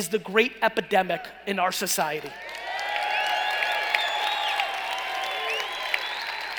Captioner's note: cheering and applauding